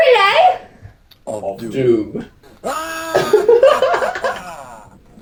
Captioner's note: they laugh